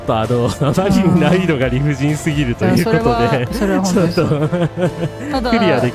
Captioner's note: laughter